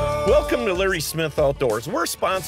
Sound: voiceover

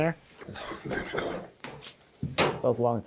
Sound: frame banging

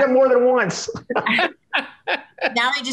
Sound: laughs

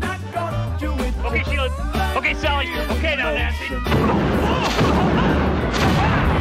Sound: Howard grunting; women thudding

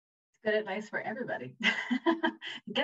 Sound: laughs

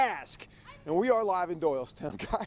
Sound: laughter

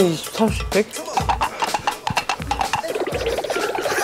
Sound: galloping

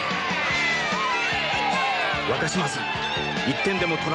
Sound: applause

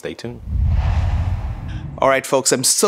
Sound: logo swooshes

